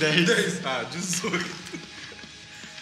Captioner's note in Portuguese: risada